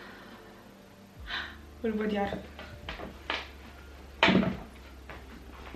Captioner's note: gasp